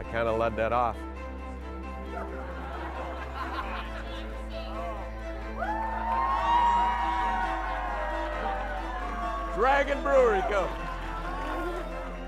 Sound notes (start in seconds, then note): 2.1 crowd laughing; 5.7 crowd cheering